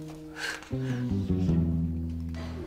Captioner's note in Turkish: Gülme sesi